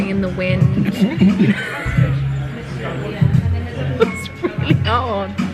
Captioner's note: laughing